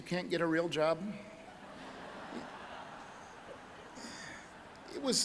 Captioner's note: audience laughing